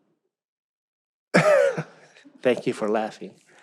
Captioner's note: laughs